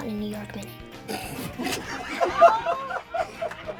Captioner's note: laughter